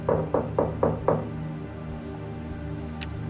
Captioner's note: knocking on the door; soft music